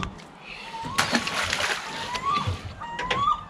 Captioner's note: thud; splashing; seagulls calling